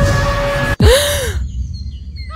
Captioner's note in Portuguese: SuSpiRo